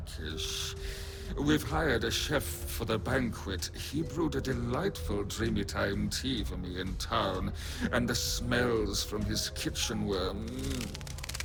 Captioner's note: more delicious fluttering